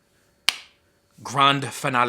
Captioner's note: hands slapping